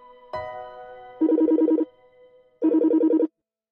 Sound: phone rings

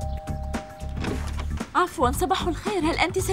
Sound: doorbell rings

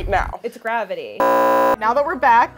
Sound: beeping

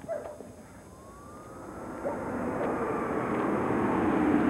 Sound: sirens

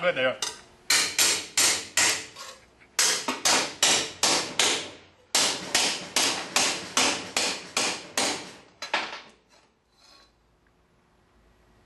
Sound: hammering

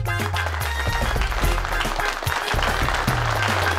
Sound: applauding

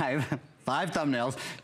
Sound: counting

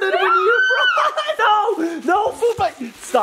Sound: shrieks

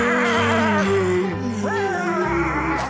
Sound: laughing

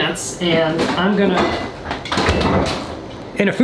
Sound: door slamming

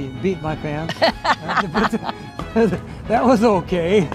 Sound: laughing

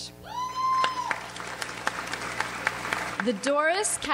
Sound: audience applauds

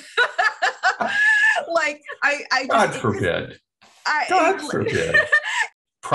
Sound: laughter

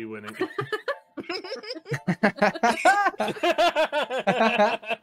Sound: laughing

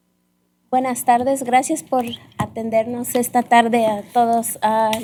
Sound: speaking spanish

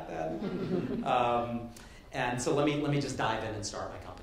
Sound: light laughter

